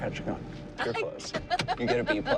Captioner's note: laughs